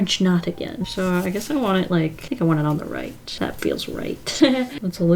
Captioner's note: laughs